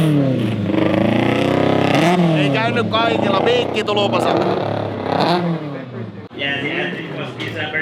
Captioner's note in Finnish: moottorien pärinää